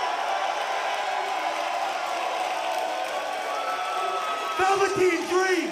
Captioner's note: crowd cheering